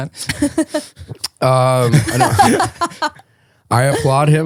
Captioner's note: laughing